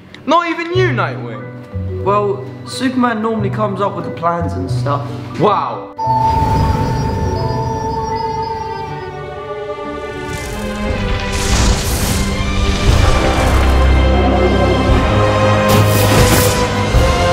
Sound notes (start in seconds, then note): 9.9 magical music; 14.2 whirring